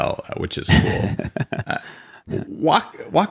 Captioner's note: laughs